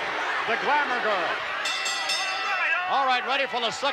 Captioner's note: bell rings